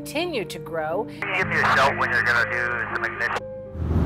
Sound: radio chatter

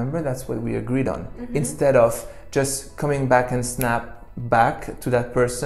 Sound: snaps

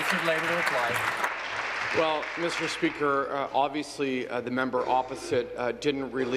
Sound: applause

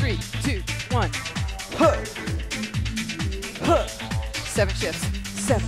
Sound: grunting

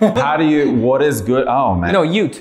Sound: laughter

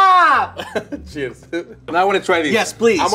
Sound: laughs

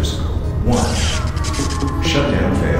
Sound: electric sparks

